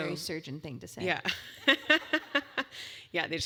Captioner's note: laugh